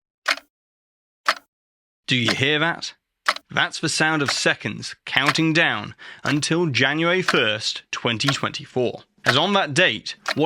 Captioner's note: clock Ticking